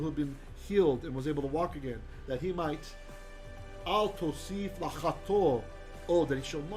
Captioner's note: hebrew